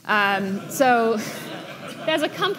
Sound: audience laughing

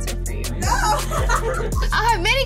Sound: laughter

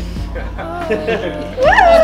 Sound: laughter

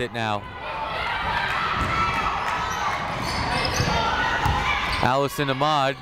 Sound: people shouting in the crowd

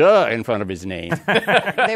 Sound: laughter

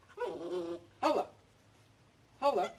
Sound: growling

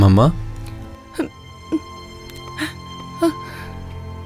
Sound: crying

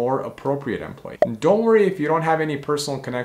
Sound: bubble popping

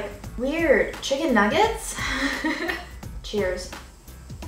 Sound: laughing

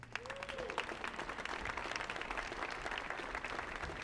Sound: audience applauding

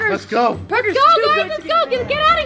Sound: everyone talking excitedly

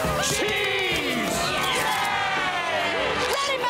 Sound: cheering

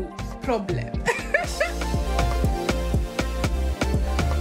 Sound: laughs; upbeat music

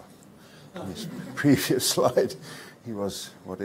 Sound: audience laughs

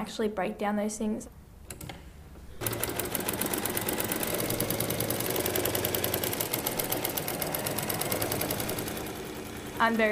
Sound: sewing machine

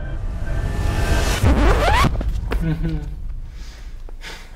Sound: record screeching

